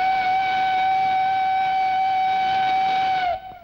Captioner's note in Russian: паровозный гудок